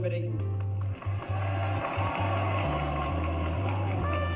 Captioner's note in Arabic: تصفيق الجمهور